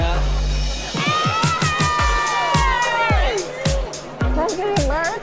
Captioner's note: screams